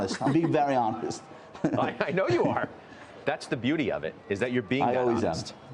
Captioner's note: laughter